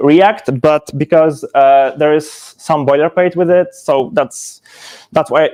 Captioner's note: none